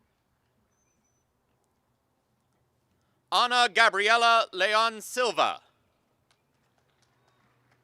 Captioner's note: applause